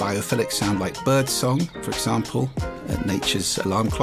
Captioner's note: bird singing